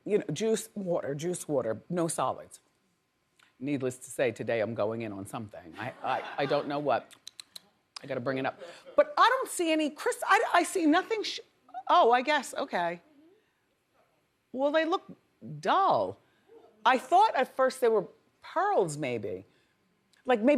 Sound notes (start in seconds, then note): 7.1 smacks lips